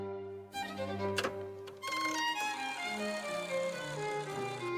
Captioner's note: rotary dial clattering